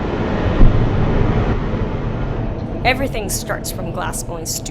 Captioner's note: fire rumbling